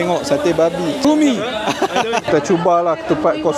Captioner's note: laugh